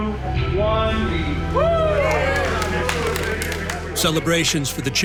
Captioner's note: group whooping and applauding